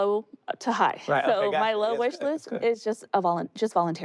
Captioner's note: laughs